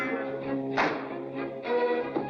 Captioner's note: door slams; playful music